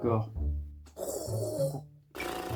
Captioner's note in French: zzz